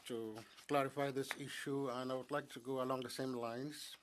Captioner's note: speaking French